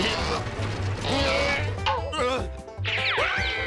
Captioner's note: grunting